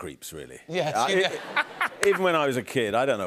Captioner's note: laughter